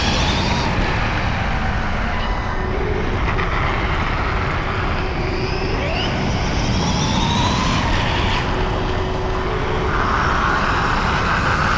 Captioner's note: electric motor screaming